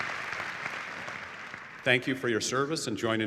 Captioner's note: applause